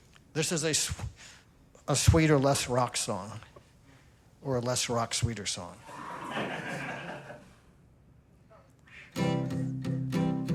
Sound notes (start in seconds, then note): 5.9 laughter; 9.2 romantic music playing